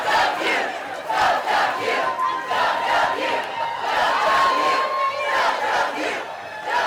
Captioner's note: crowd cheering; crowd chanting